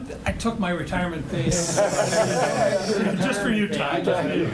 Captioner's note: group laughs